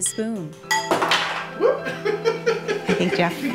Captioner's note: laughs